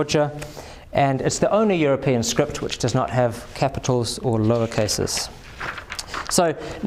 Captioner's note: Georgian